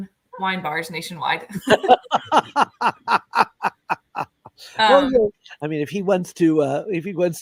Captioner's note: laughter